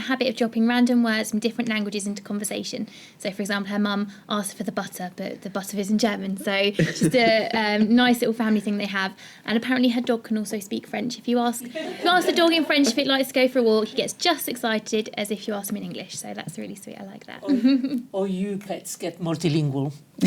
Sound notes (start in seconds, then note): 11.6 laughter